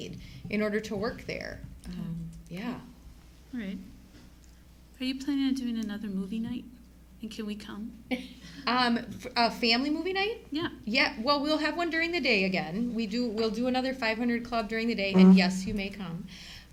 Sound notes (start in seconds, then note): 8.4 giggles